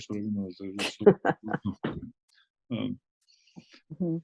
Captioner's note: laughs